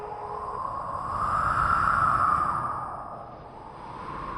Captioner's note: wind Sounds